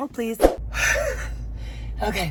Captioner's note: sighing